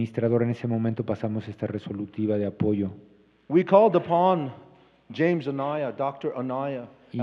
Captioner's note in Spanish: Expositor habla en inglés